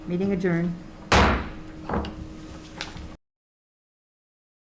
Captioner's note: gavel slams